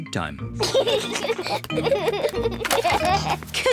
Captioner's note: both giggle